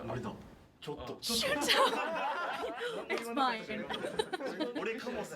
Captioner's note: gasp